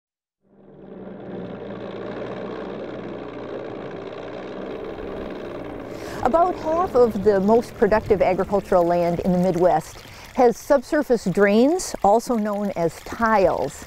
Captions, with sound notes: (machine running) About 1/2 of the most productive agricultural land in the midwest has subsurface drains also known as tiles